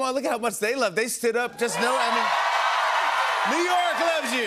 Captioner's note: cheers and applause